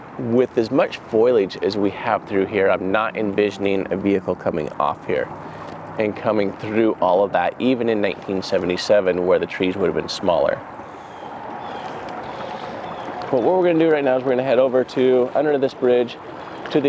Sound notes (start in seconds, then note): 11.4 birds calling